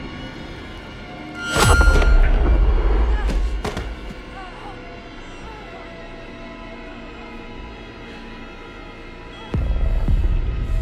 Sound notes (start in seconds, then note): 3.6 groans